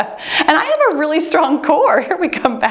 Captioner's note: timer beeps